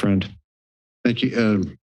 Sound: silence

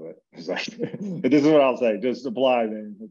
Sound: laughs

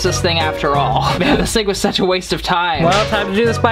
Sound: scoffing

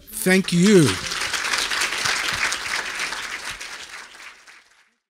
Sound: audience applauding

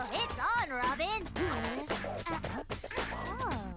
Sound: humming

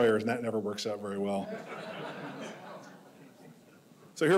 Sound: audience laughing

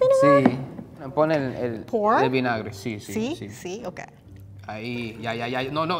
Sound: speaking in foreign language

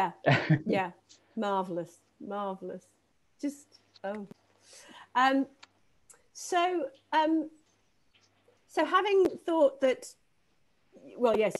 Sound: laughing

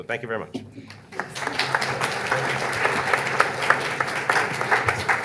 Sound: audience clapping

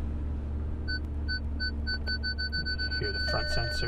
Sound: beeping

